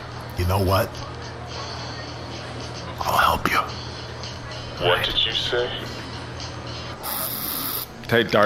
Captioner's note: lowering his voice